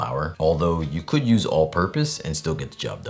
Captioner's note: none